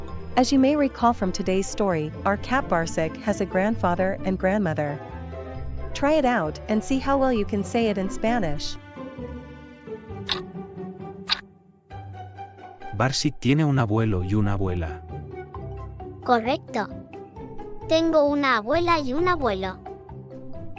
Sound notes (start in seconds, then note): 9.7 FX - Clock Tick